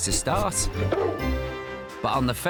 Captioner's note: bark